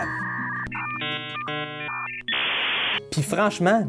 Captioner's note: modem sounds